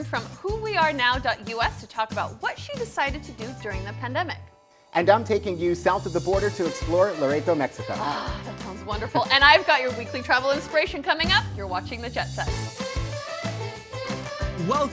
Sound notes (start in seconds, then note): 7.9 grunts; 12.6 upbeat music